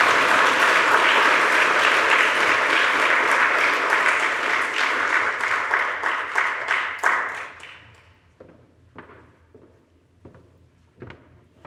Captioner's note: audience applauds